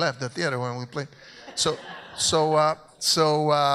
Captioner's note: audience laughs